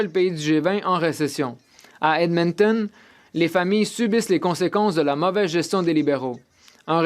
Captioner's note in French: voix de l'interprète